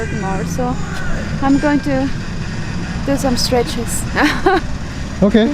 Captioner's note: laughs